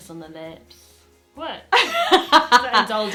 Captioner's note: laughs